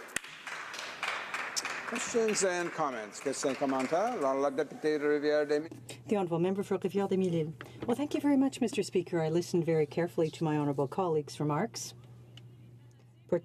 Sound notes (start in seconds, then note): 5.6 some Applause; 8.8 speaking French